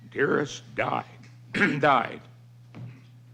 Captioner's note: clears his throat